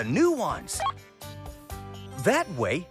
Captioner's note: beep